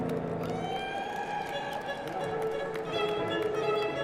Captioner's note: man Whoops